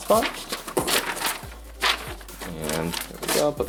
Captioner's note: papers rustle